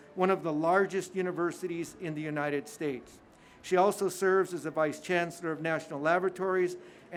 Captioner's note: none